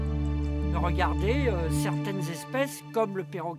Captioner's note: speaking French